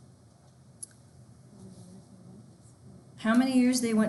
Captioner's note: student speaking faintly